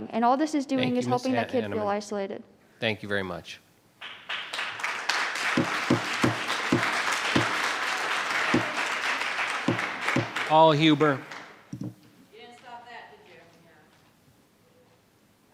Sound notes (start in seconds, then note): 4.0 audience applauding